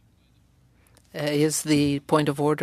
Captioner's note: speaking french